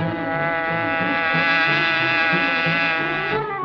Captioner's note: tires squealing; buzzing